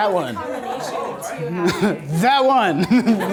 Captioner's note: voiceover